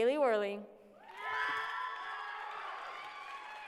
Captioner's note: applause